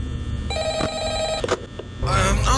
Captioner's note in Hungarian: Telefoncsörgés